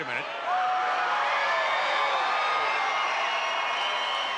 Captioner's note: crowd screams